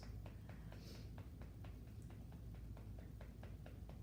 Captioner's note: gentle tapping